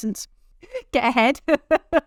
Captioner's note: both laughing